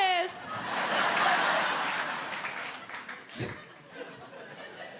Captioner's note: audience laughing